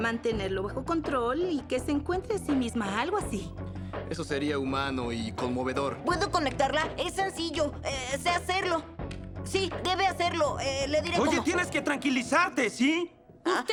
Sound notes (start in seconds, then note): 4.5 voiceover